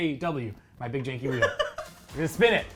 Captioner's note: laughing